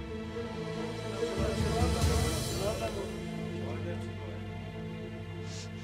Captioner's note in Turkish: Kalabalık konuşma sesleri